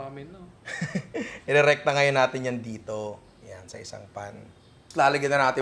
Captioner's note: chuckles